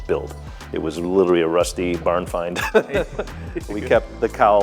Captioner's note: laughs